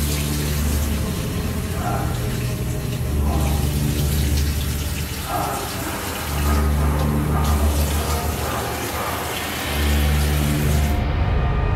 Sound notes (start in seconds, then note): 2.2 background gurgling; 5.4 background moan